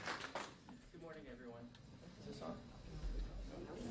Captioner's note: applause